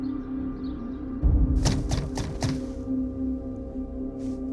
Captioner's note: knocking on the front door